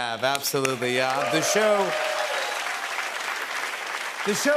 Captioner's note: cheers and applause